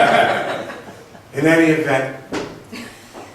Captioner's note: laughs